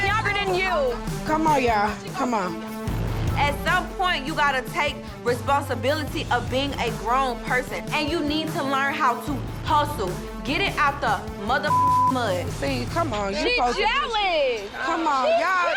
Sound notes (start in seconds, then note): 11.6 beeping